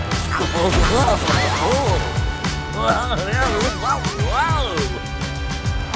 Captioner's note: groaning